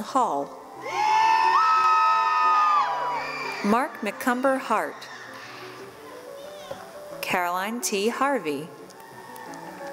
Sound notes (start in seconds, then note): 0.8 cheering